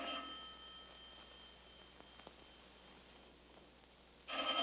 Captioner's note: ringing continues